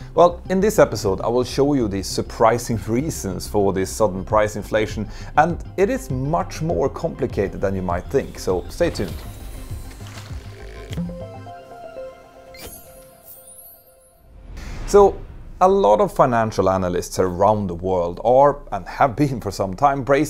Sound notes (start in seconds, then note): 10.9 playful chime